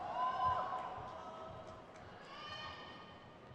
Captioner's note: crowd cheers